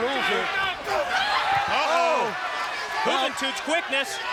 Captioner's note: applause